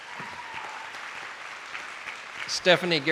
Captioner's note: attendees applauding